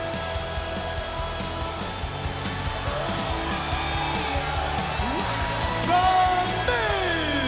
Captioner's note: crowd cheering